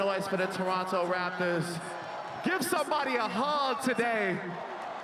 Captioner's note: cheering and Applause